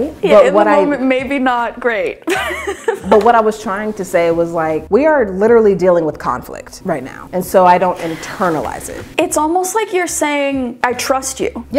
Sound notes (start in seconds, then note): 2.3 laughing